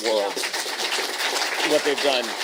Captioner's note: applause